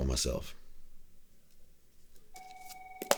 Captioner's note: phone rings